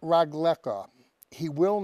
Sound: speaking Hebrew

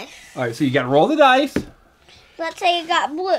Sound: voiceover

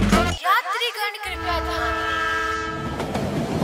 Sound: train announcment

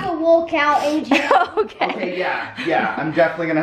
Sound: laughs

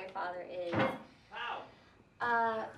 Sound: bang

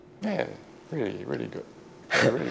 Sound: laughs

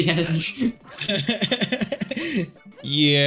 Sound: giggling a bunch

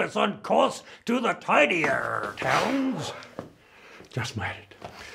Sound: feet shuffling

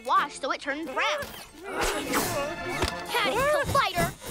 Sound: nervous whimpering

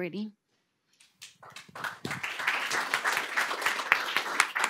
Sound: applause

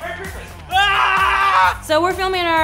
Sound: screaming

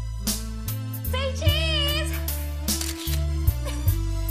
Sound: camera shutter clicks

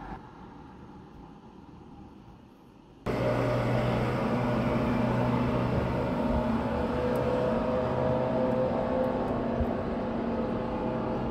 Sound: monster truck roaring

